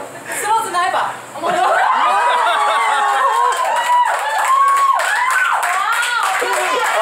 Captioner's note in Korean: 환호성